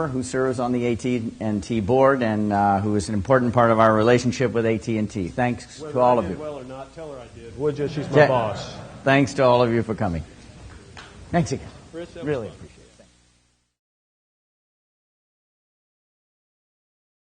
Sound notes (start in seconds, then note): 7.8 laughter